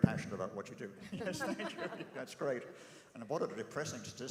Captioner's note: laugh